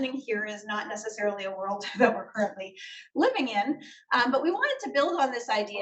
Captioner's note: laughs